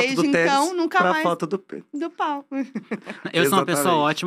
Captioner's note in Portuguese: falando baixo